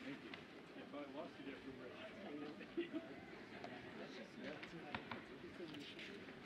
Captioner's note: speaking faintly